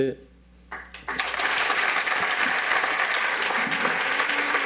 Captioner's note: audience applauds